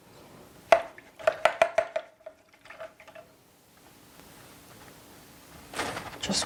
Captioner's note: paint brush thudding; liquid splashing